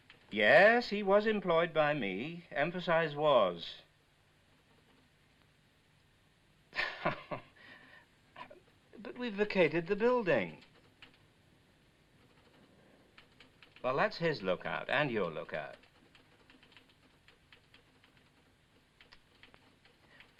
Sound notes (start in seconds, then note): 0.0 typewriter chattering; 6.7 scoffs; 16.8 typewriter chattering